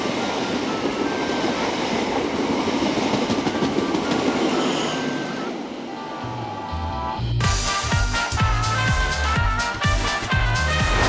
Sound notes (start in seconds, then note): 0.1 upbeat music; 4.0 train whooshing; 7.5 upbeat music continues